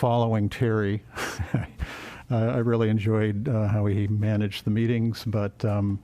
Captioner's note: laughter